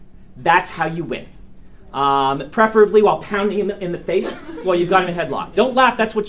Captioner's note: students laugh